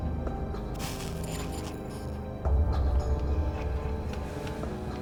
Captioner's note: suspenseful music; cigarette hissing